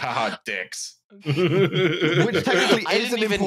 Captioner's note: laughter